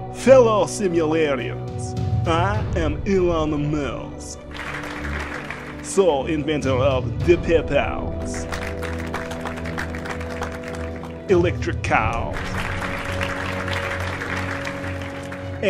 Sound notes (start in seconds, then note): 4.4 mild Applause; 8.4 mild Applause; 12.4 moderate Applause